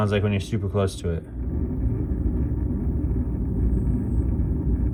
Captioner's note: Chilipad whirring